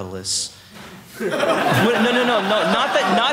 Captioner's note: audience laughing